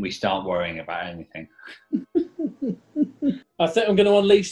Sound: giggling

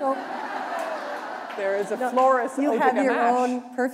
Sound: laughter

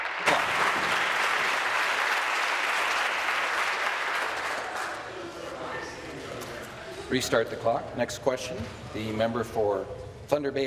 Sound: applause

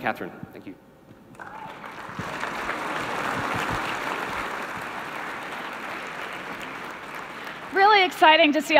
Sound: applause

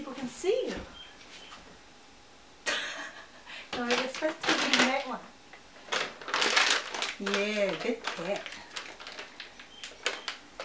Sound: laughs and tidies up the bag of cat treats

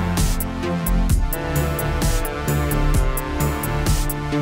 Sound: none

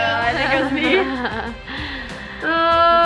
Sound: chuckles

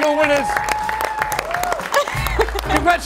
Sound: cheering and applause

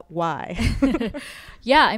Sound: laughing

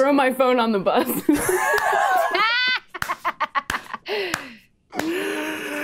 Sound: players laughing

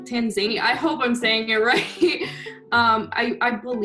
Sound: chuckles

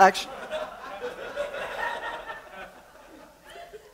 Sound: laughter

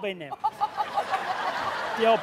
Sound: laughter

